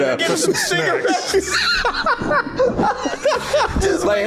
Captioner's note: laughs